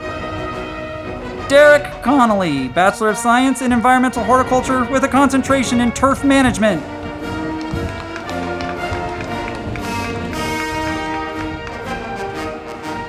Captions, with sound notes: Derek Connolly, Bachelor of Science in Environmental Horticulture, with a Concentration in Turf Management. (band music) (crowd clapping)